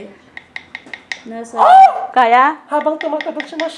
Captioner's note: shrieks